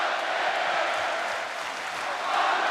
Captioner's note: audience clapping